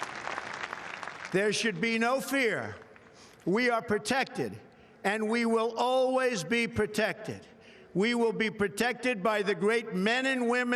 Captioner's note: applause